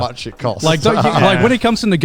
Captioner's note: chuckles